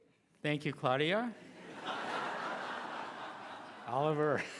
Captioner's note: laughing